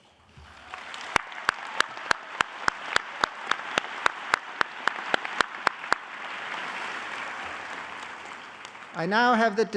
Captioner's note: applause